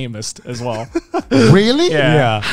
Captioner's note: laughs